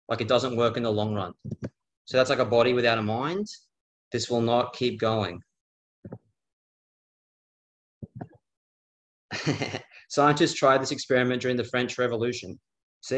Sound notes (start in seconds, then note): 9.3 chuckles